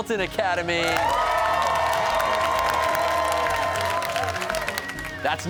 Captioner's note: cheers and applause